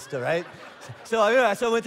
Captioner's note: congregation laughing